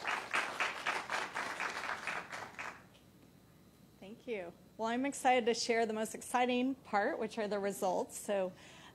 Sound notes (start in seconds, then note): 0.0 applause